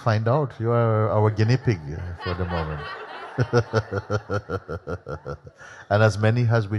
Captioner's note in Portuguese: risos